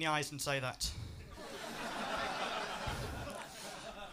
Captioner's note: laughter